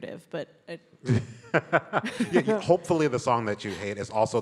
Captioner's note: laughs